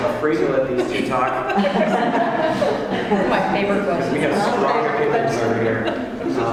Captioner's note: laugh